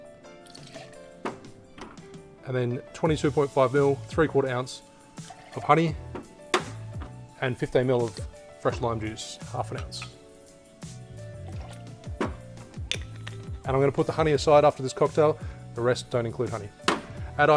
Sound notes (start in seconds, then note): 0.4 liquid sloshing; 11.2 liquid sloshing